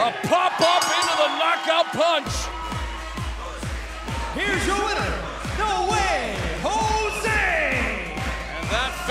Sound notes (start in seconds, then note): 0.6 bell ringing